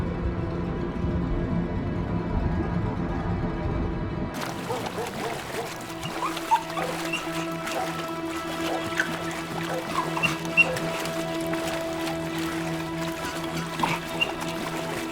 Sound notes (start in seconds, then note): 1.7 dog barks; 1.7 dog whimpering; 6.2 water splashing